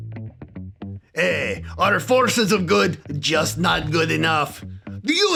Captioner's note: in a Bad Russian Accent